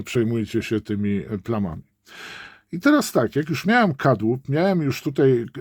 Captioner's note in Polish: wciągnięcie powietrza